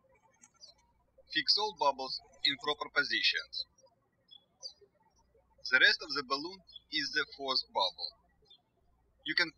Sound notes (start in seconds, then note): 4.2 birds chirping